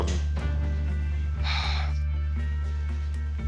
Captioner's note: sighs